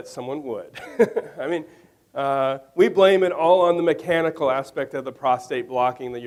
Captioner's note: laughs